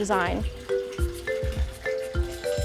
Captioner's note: running water